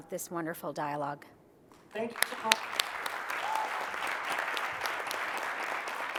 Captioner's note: applause